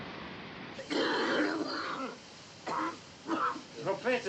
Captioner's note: coughing